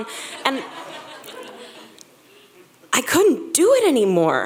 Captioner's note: audience laughs